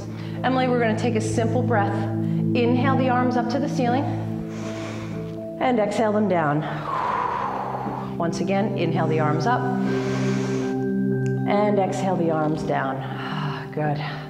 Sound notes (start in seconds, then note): 4.1 breathes; 6.6 exhales; 9.7 breathes